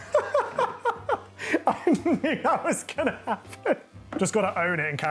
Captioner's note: laughing